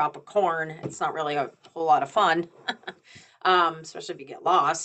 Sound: chuckles

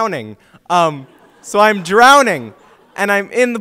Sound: audience laughs

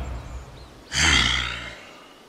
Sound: heavy Sigh

